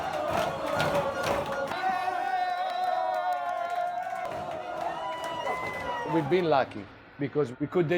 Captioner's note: people cheering